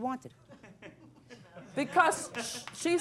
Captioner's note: scattered laughter in courtroom